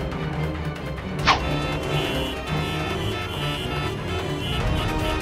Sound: horns honking

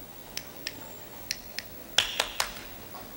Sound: snapping fingers; clapping

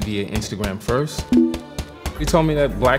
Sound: phone chimes

